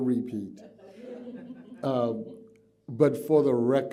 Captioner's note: laughter